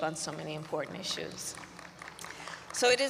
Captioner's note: applause